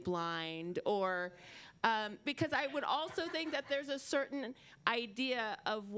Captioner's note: laughter